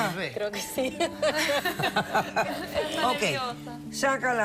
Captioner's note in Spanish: risas